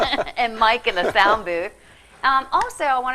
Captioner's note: laughing